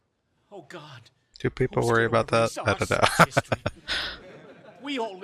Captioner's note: laughing